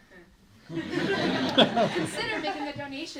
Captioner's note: laughter